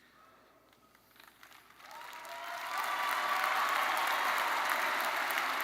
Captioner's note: attendees cheering and applauding